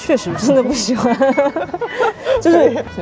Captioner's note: hahahaha